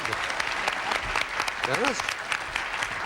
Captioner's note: audience applauding